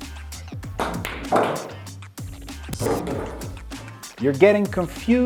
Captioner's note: pool balls hitting